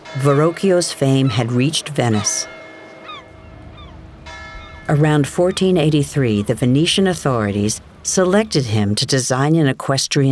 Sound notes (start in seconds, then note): 2.2 bell chiming